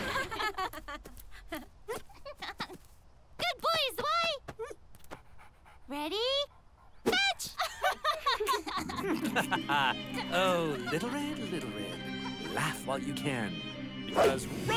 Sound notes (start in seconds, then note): 0.0 laughter/giggling; 7.4 more laughter/giggling; 7.6 sinister laughing